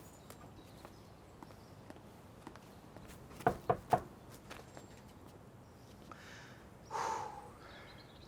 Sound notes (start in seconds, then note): 3.4 knocking on door; 6.9 exhales in excitement